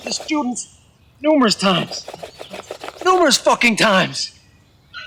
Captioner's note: wood scraping